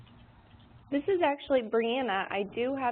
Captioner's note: voiceover